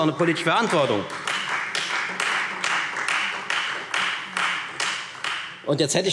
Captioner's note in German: Beifall Freie Demokraten